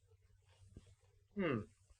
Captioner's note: sniffing